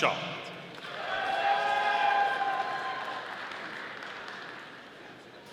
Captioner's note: audience applauding